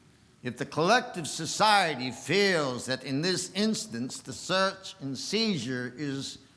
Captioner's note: none